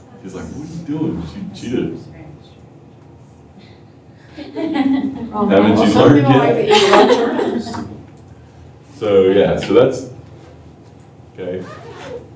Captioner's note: laughter